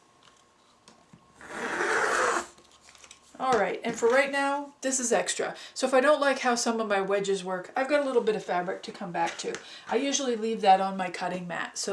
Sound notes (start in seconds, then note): 1.5 sound of cutting